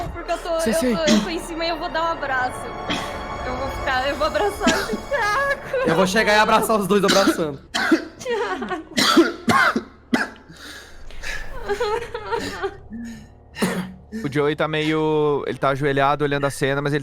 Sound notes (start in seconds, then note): 4.4 coughing; 5.4 cries; 7.0 coughing; 11.6 cries